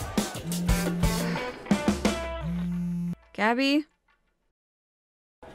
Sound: sighs

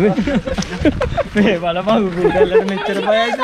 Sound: laughing

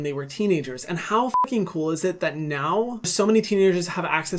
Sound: beep

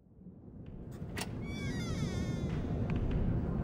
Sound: Cafe's door creaks open

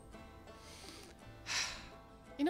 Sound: sigh

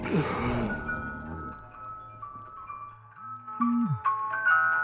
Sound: phone alarm ringing

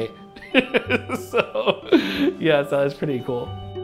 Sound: laughter

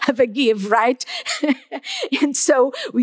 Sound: laughs

